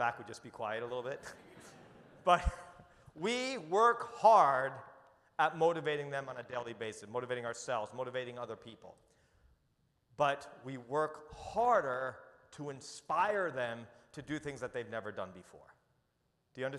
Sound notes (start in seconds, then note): 1.0 audience chuckles